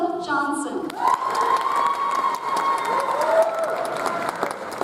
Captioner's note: audience applauds